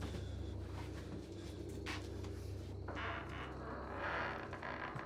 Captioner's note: insects chirring